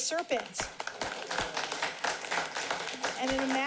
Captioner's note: applauding